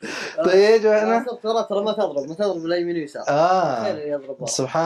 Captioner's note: Arabic